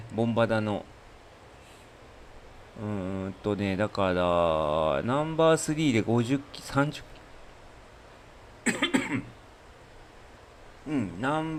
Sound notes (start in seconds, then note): 8.6 cough; 8.6 clears throat